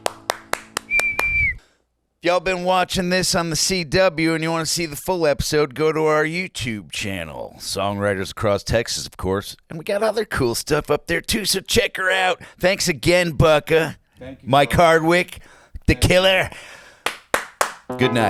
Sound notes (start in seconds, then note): 0.6 cheering